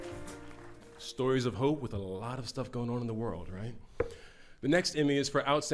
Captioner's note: applauding